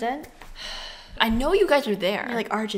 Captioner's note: sigh